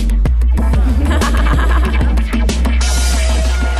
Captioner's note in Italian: risate